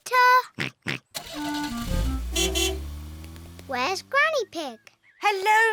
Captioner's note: oinks; horn beeps